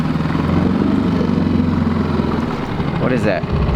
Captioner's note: boat motor running